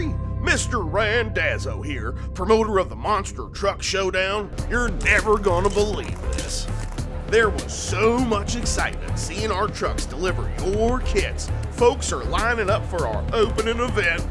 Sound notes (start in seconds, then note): 5.0 cameras clicking